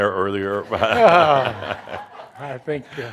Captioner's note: more laughter